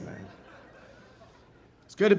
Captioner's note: audience laughing